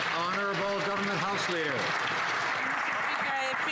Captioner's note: some Applause